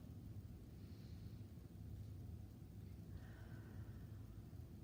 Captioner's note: breathing deeply